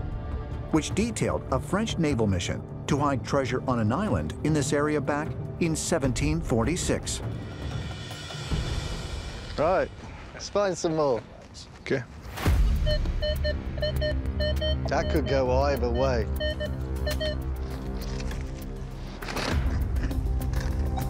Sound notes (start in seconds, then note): 12.8 beeping